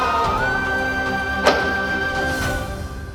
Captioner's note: doors rattling